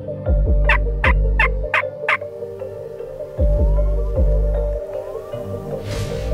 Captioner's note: suspenseful music; turkey call squeaking